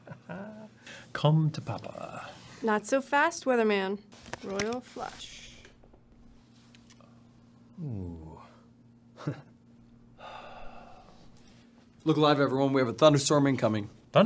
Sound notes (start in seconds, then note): 10.1 sighing